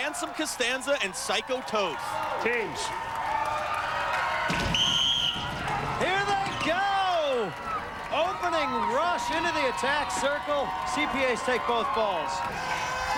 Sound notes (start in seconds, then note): 4.6 whistle blows